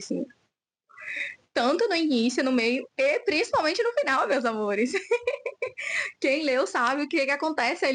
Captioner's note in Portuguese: risadas